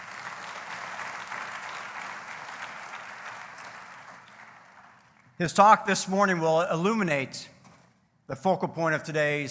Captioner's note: applause